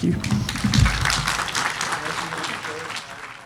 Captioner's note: applause